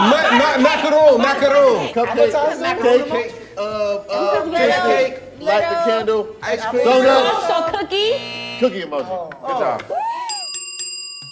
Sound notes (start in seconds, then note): 7.9 timer buzzes; 10.2 bell dings